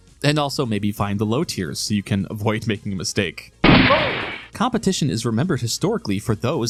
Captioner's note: gunshot